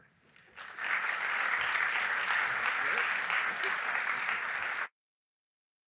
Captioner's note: audience applauding